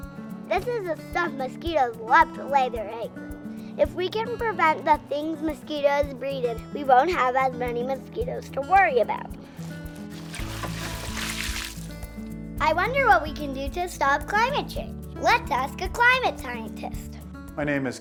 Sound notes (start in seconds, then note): 9.6 water pouring